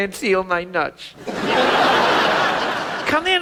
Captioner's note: audience laughs